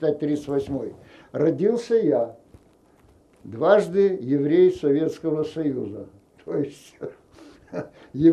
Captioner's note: laughing